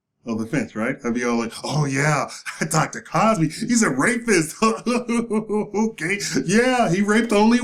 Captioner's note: clown laugh